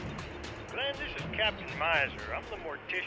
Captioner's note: on phone